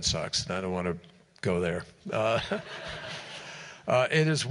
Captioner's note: laughter